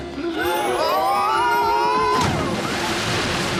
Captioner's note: all scream; splash